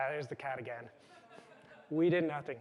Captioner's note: laughter